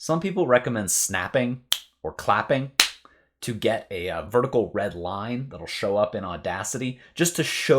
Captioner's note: clap